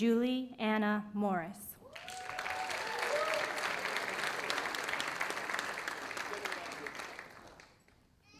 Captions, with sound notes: Julie Anna Morris. (audience applauding)